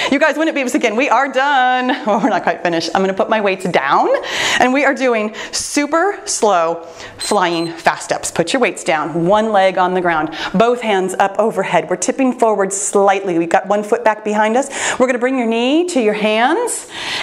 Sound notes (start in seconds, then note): 1.8 laughs; 7.2 timer beeps